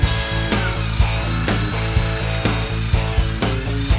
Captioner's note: whirring